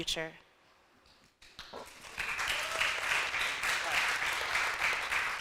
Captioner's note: audience applauding